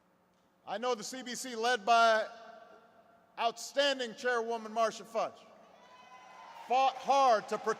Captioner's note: applause